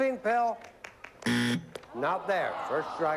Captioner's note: buzzer